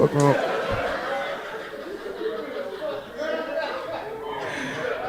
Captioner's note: audience laughing